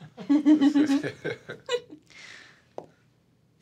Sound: laughing

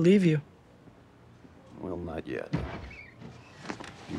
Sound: door opens

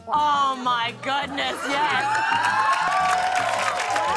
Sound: cheers and applause

